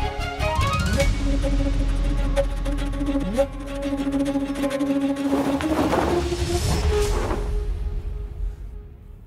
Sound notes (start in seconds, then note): 0.2 dramatic music; 5.2 bird wing flaps